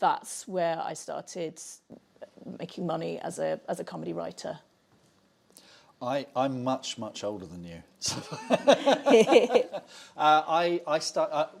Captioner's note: laughs